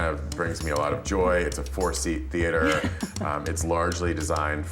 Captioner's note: laughter